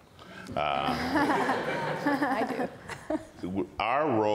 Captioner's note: panel and audience laughs